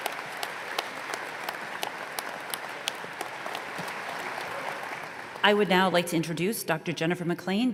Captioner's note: applause